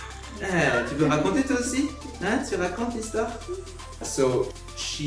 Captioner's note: speaking in a foreign language